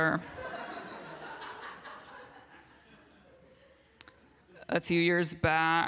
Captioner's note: laughter